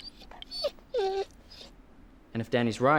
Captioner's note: dog whining